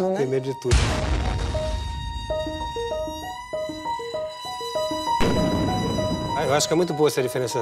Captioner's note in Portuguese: explosões